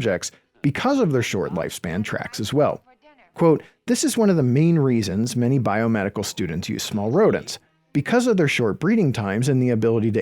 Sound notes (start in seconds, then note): none